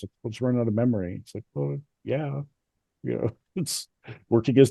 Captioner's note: laughs